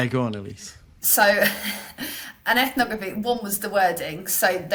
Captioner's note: chuckles